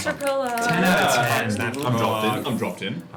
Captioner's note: snapping